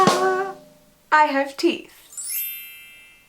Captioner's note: sparkle sound effect